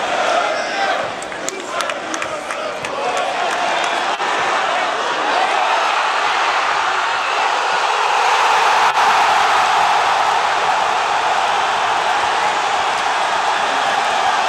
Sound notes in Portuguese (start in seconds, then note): 7.9 gritos de gol; 13.7 torcida celebrando